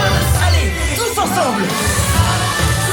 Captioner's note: Aladdin speaking French; upbeat music